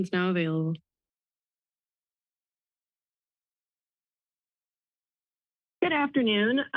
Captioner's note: silence